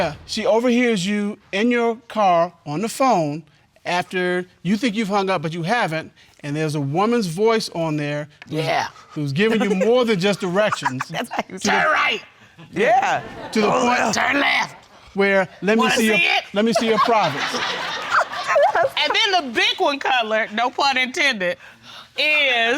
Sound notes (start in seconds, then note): 6.9 deep voice; 9.4 laughing; 9.4 laughs; 12.4 deep voice; 16.7 all laugh